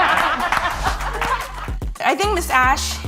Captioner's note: everyone claps